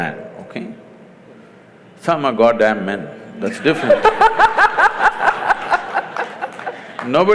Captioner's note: laughter